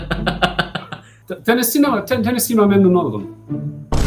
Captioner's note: Turkish